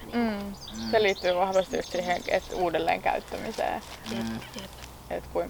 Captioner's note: birds going wild